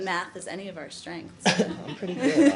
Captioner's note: laughter